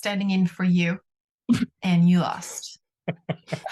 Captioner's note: laughter